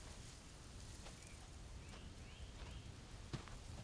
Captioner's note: none